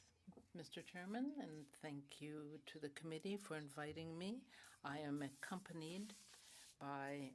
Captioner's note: speaking French